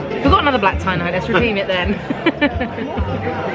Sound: laughing; relaxed upbeat music

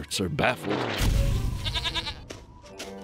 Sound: bleats

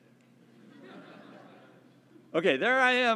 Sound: laugh

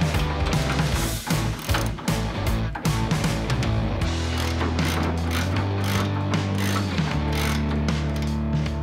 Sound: ratcheting wrench

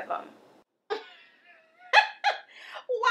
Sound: Fiona laughing

